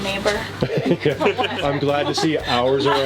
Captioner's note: laughing